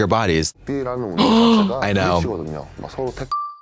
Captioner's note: Trixie pants